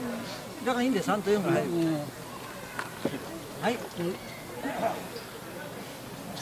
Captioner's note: participants speaking in Japanese